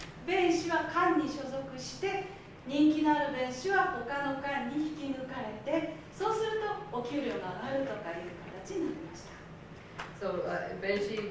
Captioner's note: speaking Japanes